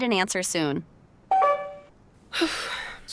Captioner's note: phone call ends; sigh